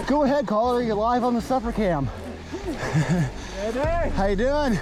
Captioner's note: chuckles